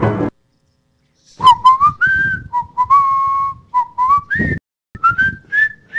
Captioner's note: whistling